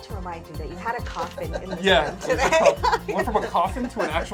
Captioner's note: laughs